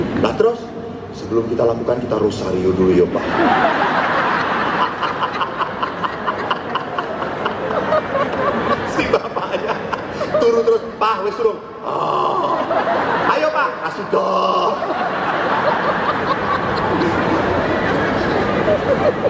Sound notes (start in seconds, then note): 3.2 laughing